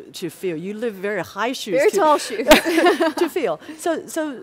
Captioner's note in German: lacht